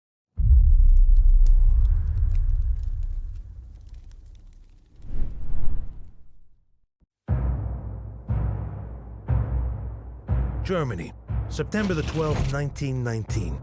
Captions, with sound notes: [fire sounds] [dramatic music] Germany September 12th, 1919.